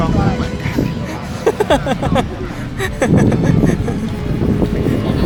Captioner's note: laugh